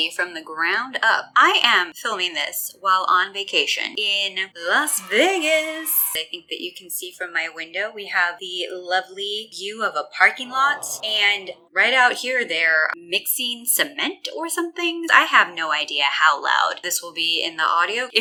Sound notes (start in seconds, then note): 4.8 children cheer sfx; 10.1 crowd disappointed aww sfx